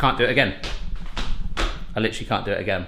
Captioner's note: stomping